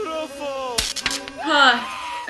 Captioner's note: crackle; scream